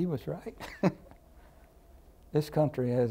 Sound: laughter

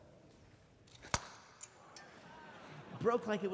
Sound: shattering

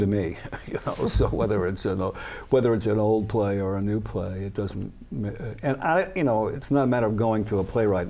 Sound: laughs

